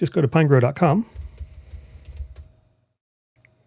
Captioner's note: typing